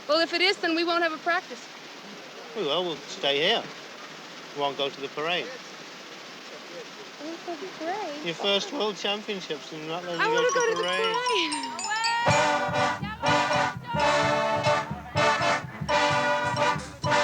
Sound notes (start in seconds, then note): 12.7 applause; 12.7 marching band music